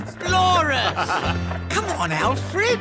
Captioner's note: Rat laughs